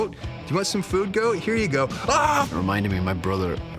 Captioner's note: mimics screaming